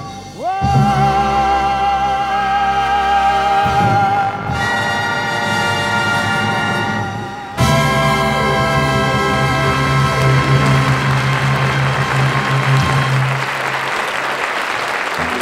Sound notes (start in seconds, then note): 4.6 triumphant band music; 10.0 audience applauding